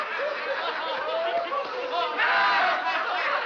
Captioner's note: laughter continues